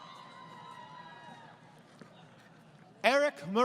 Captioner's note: crowd Cheering